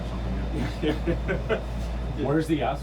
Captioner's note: man laughs